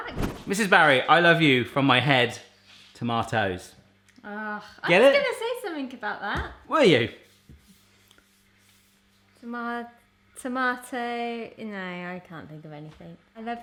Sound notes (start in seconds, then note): none